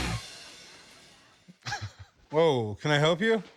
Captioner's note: laughs